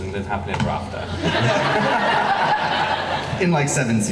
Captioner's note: laughing